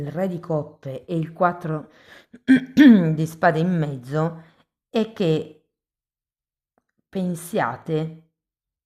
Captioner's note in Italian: schiarire la voce